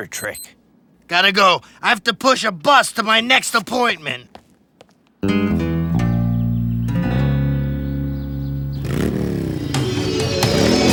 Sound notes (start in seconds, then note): 0.2 watch chimes; 8.6 engine revving